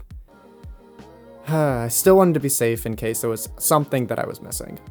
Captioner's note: sighs